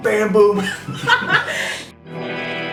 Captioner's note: laughs; guitar strum